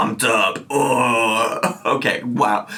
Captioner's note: groans